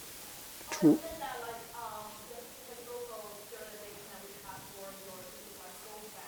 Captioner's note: audience speaking indistinctly